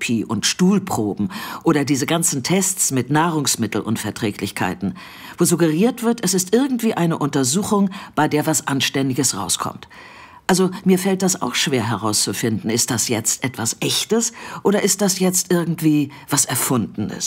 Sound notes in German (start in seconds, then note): none